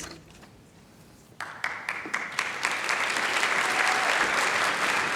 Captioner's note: applause